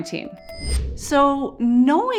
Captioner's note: whooshing